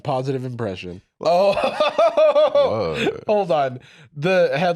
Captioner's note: laughs